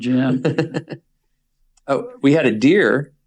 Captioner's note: laughs